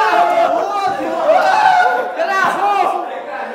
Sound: shouting of joy

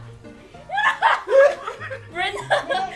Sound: laughter

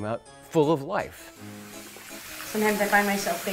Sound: water running

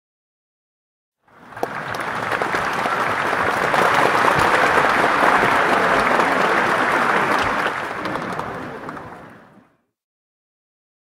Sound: sound of clapping

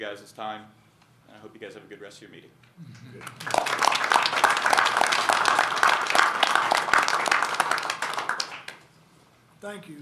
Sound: applause

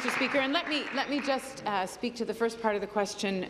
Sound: applause

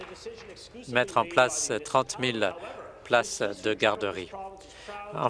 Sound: applause

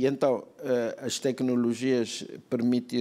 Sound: speaking portuguese

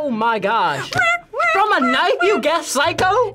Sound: making stabbing noises

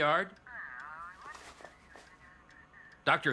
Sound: garbled Phone Voice

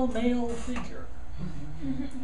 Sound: students laughing

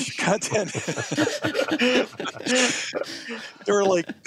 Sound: laughs

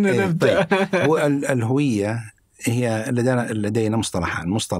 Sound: in Arabic

